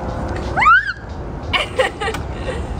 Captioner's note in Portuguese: grita